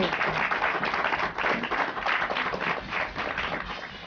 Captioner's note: applause